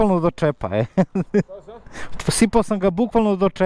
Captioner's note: laughs